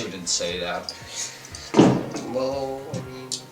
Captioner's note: thud